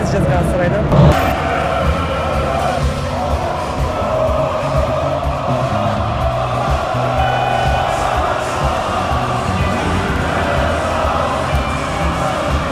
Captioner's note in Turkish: Tezahüratlar